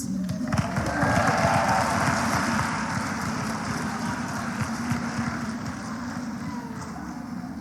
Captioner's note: applause